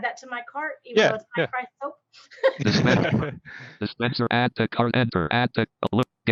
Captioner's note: laughs